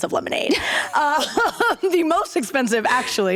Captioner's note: laughter